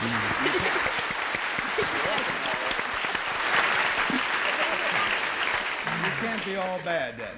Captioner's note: applause